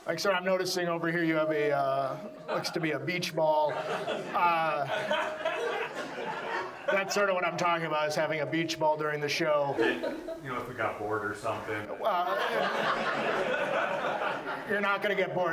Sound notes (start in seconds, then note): 3.6 audience laughs; 12.0 audience laughs